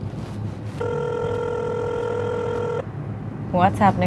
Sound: phone ringing

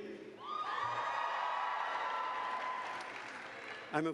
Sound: cheers

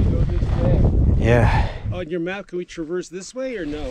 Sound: wind drowns out

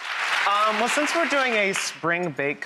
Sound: applause

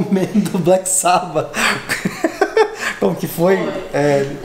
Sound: laughs

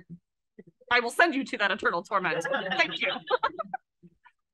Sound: laughs

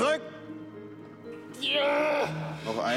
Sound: groaning

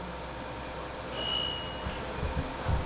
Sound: ringtone, grinding noises

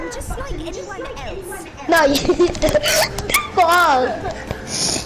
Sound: laugh

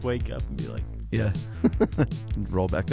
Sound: chuckling

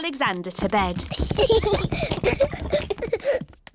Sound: children giggling

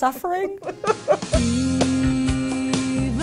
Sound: laughter

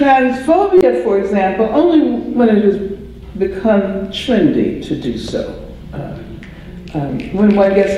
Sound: applause

